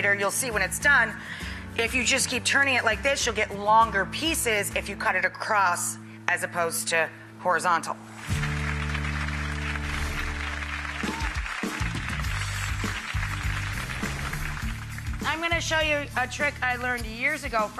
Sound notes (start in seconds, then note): 8.3 clapping